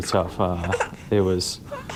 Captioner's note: baby fussing